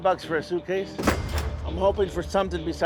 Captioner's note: cash register dings